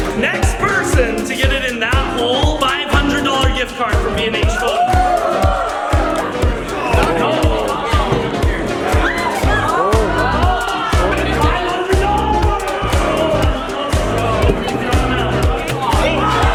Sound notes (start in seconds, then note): 4.1 audience cheers loudly; 5.6 crowd cheers; 13.2 mumbling and cheering